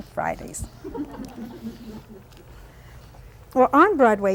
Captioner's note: laughter